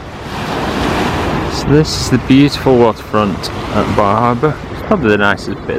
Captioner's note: waves